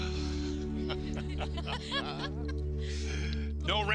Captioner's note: group laughing